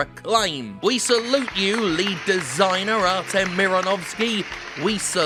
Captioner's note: background applause